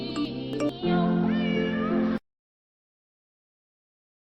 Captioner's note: miaow